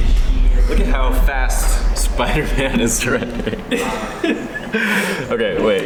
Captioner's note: laughing